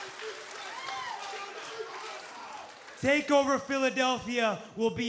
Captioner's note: crowd cheering